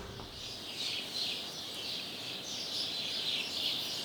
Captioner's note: birds chirping